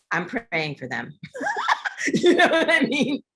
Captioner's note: laughter